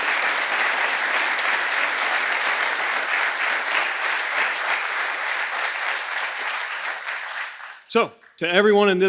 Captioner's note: applause